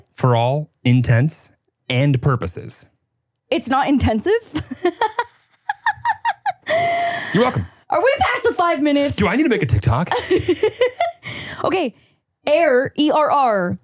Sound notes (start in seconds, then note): 5.6 laughing; 10.1 laughing